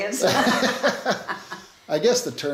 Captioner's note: laughing